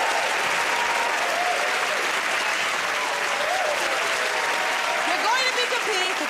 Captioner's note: cheers and applause